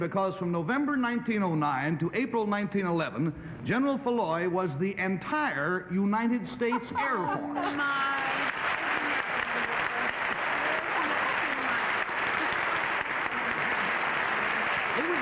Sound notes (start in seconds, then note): 6.6 laughing; 9.4 applauding